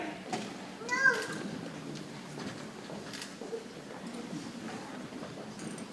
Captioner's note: people chattering softly